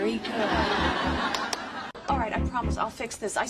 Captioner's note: audience laughing